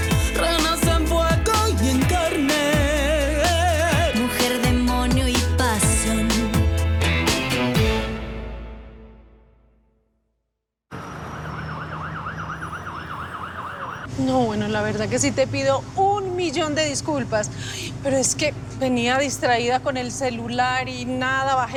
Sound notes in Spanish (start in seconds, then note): 10.9 Sirenas